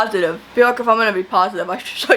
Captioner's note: sarcastically